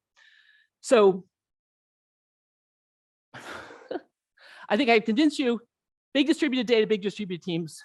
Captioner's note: laughs